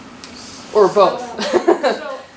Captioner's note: laughs